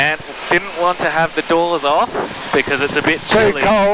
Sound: laughing

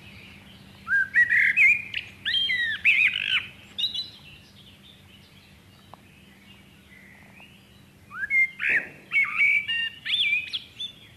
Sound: blackbird song

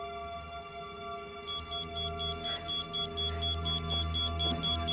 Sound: electronic beeping

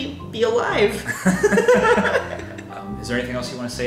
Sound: laughing

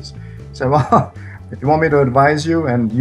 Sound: laughs

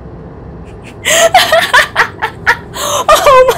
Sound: Revy laughs louder

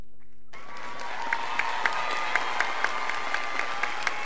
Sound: audience applauding

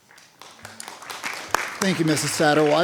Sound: attendees applauding

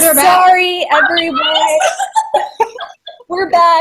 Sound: laughter

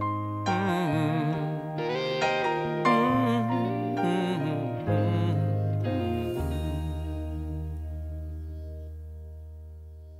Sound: humming

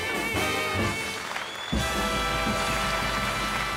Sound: audience applauding

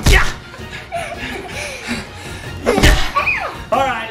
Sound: panting

